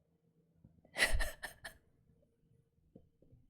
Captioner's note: laughs